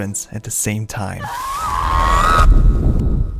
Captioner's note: Senua Screams